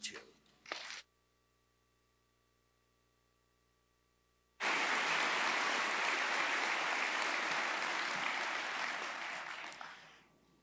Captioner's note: applause